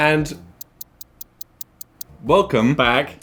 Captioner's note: clock ticking